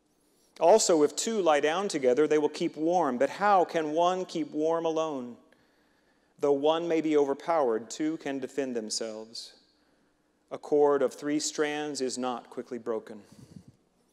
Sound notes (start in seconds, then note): none